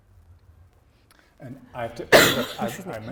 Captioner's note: coughs